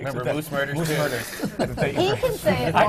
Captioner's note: laughter from the panel